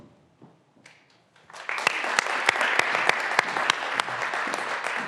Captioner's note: graduands applauding